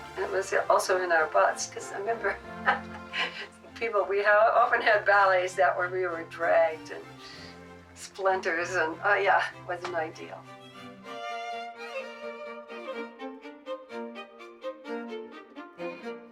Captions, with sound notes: and it was also in our butts, 'cause I remember (laughs) people, we often had ballets that were, we were dragged and splinters and oh yeah, wasn't ideal. (light instrumental music)